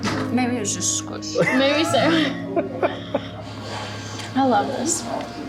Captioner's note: laughs